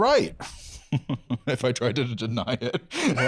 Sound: laughing

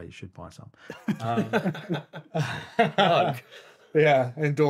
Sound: laughing

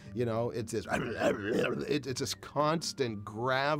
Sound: imitating harsh grunting

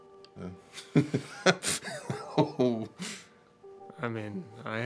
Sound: laughing

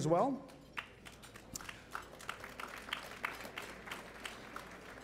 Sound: applause

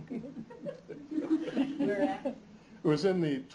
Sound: laughter

